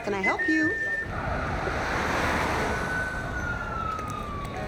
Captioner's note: sirens wailing